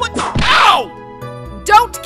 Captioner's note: whip crack!